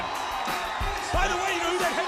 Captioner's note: crowd cheering